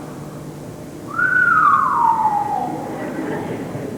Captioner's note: whistles; laughter